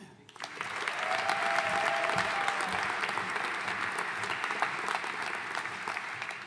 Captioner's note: audience cheering and applauding